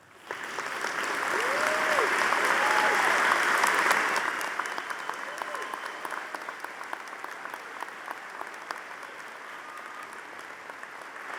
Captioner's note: audience applauding